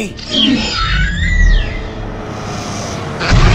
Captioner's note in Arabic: أصوات فيلوسيرابتور; أصوات تقترب من السيارة